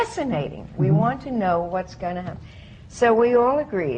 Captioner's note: none